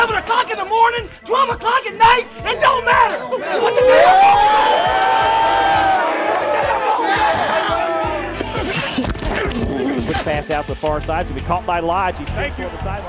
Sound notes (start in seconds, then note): 3.3 cheering; 9.2 hitting and grunting